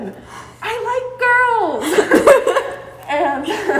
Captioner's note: laughing